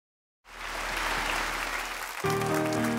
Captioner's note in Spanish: aplausos